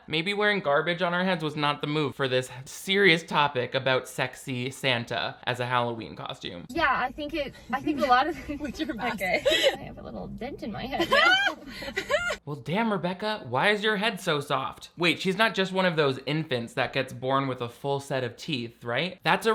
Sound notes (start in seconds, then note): 11.0 cackels